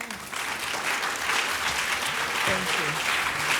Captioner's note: audience applauds